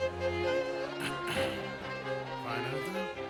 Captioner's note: clears throat